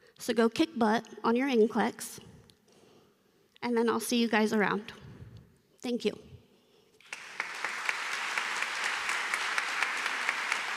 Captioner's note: applause